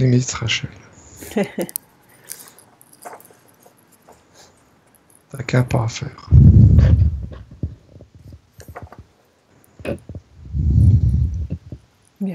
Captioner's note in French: rires